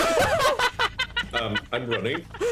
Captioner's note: laughing